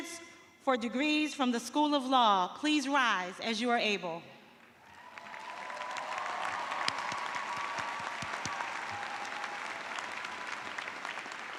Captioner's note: cheers and applause